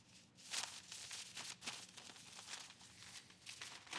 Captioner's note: paper rustling